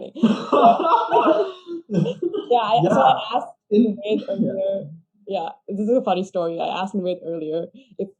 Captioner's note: both laughing